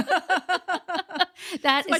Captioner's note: laughing